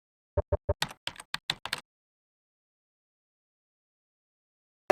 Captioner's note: keyboard clicks